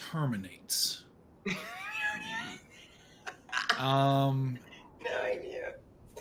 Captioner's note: laughs